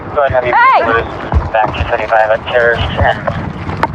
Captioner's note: radadio c chahatter